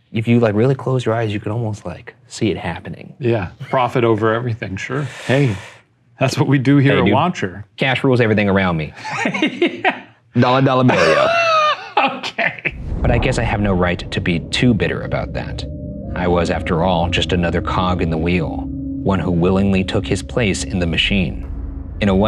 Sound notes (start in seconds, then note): 9.0 laughing; 11.7 wheezing